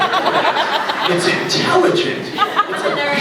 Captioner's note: scattered laughs; laughs